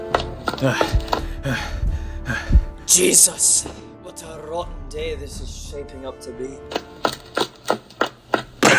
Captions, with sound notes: (Panting) Jesus, what a rotten day this is shaping up to be